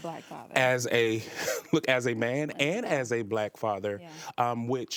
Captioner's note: laughs